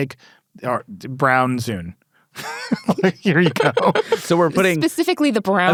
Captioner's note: laughs